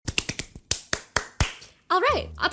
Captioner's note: clapping